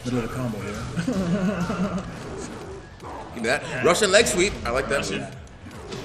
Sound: laugh

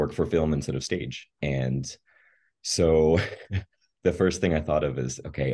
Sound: laughs

